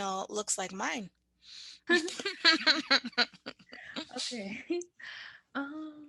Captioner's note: both laugh